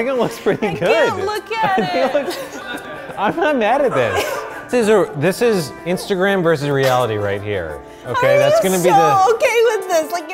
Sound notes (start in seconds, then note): 4.0 production team laughing